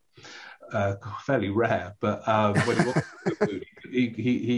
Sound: laughing

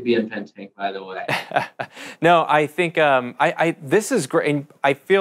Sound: chuckles

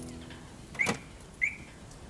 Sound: alarm chirps

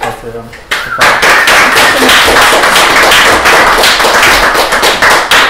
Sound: applause

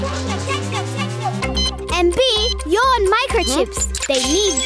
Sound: beep

